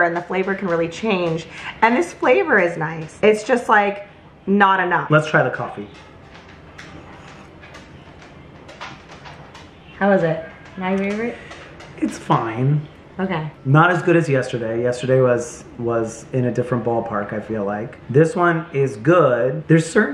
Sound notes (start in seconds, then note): 7.0 slurps coffee; 8.2 dog pattering